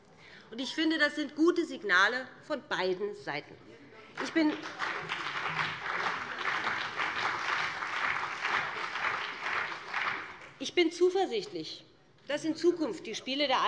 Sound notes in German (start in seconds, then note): 4.1 Beifall BÜNDNIS 90/DIE GRÜNEN und CDU